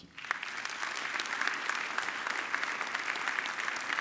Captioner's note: audience clapping